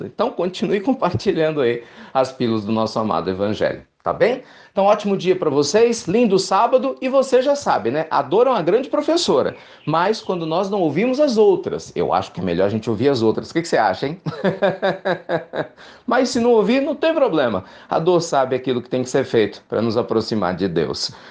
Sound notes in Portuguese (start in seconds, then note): 14.2 risos